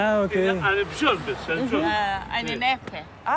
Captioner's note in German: Der Mann spricht griechisch